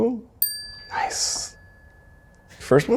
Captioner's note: bell dings